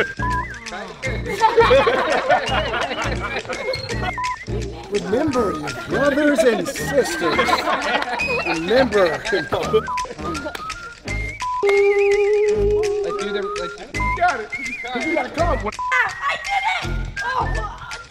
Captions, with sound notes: (beeping) (all laughing) (beeping) - Remember your brothers and sisters. (all laughing) Remember. (beeping) (playful music) Ahhh! You got it, but you gotta count one. - I did it! Oh, okay.